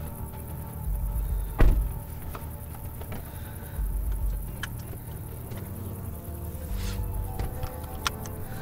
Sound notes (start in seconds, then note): 1.4 door thudding; 4.0 seatbelts clicking